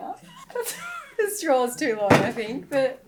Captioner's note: laughing